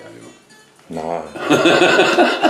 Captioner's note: chuckles